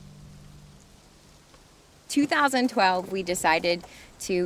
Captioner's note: none